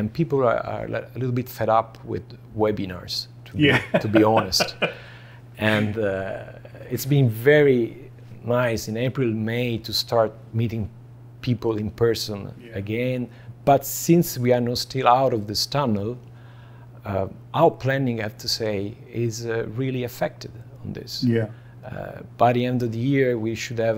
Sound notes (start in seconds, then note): 3.6 laughing